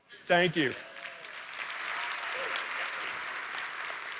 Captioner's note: applause